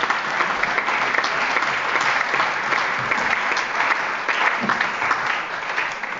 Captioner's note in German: Allgemeiner Beifall